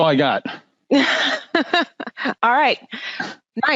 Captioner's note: laughing